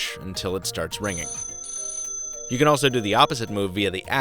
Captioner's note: telephone ringing